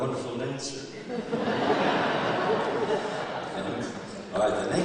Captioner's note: laughter